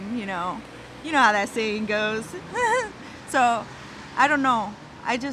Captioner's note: laughing